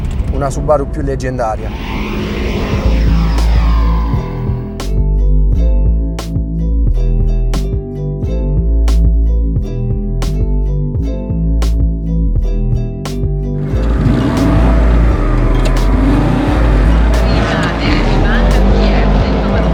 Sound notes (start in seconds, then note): 2.2 echo rumble